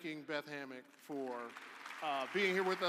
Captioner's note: audience applauding